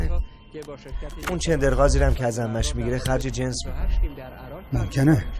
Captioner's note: TV sound on the current scene